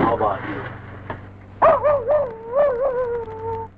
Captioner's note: Pete barking